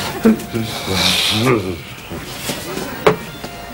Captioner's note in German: Seufzt glücklich